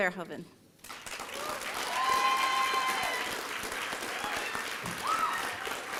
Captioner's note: applause and cheering